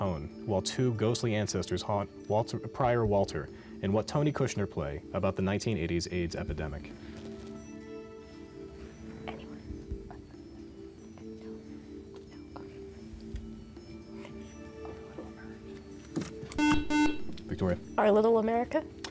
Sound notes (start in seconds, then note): 7.0 ethereal music; 9.0 whispering